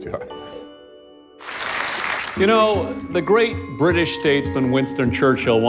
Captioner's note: applause